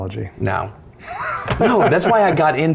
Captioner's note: laughs